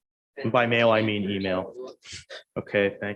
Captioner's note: speaking distantly